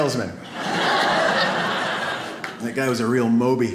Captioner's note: audience laughs